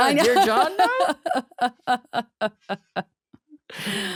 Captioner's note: laughing